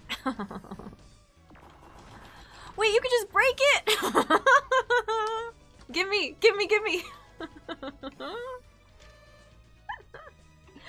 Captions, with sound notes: [Laughing] Wait you could just break it?!? [Laughing in disbelief] Gimme, gimme gimme! [Laughing at the absurdity] [Still giggling]